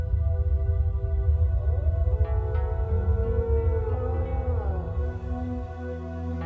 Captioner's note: echoing howls over eerie electronic music